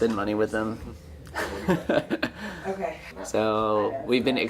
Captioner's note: laughing